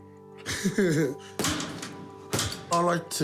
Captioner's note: laughs